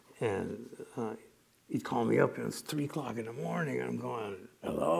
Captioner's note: groggily